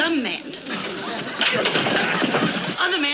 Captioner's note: wood clatters